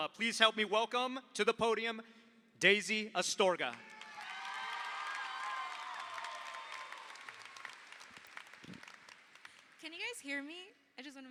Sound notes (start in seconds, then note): 3.7 audience cheers; 3.7 audience applauds